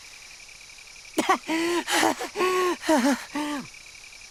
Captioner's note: huff